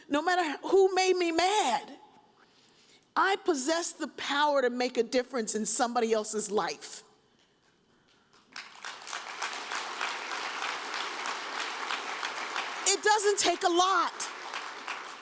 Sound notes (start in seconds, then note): 8.3 audience applauds